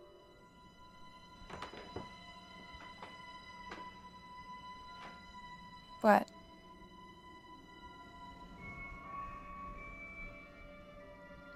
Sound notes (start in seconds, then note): 0.8 door opening